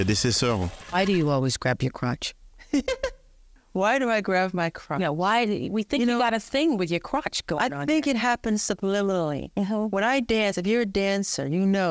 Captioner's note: applause